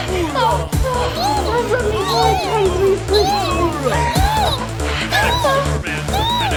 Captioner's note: other toys moaning